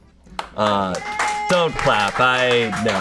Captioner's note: audience applauding